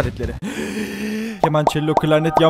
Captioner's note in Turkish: nefes alma